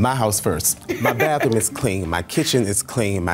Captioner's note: chuckles